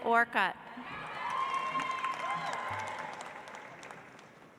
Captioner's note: audience applauds